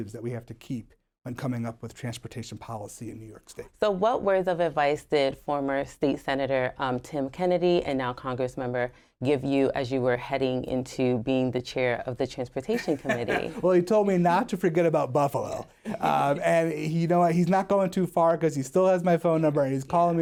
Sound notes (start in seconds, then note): 12.7 laughter